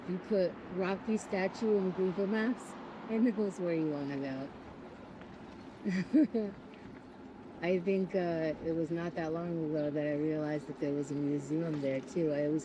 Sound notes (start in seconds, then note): 5.8 laughs